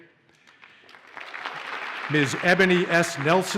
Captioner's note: audience applauds